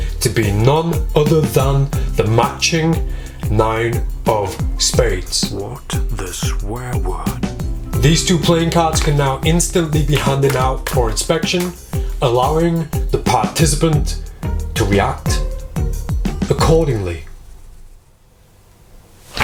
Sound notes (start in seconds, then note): 10.2 cards slapping